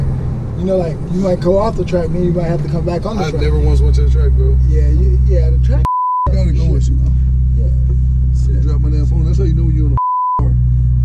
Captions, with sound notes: you know like you go off the track and then you're have to come back on the track. - I have never once went to the track bro. - Yeah, the track is (beeps). - I gotta go with you. - Yeah. - You dropped my damn phone, that's how you know you're in a (beeps) car.